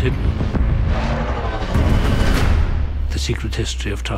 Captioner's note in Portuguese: Explosões e Flashbacks